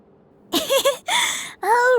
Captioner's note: laughing